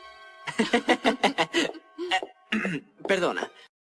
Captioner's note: laughs